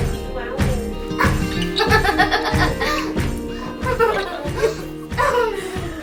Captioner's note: laughing